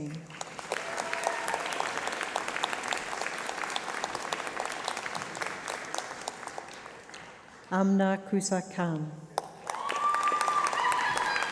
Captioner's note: applause